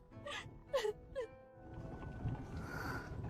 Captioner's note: crying